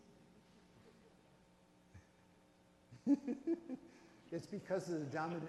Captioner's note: laughs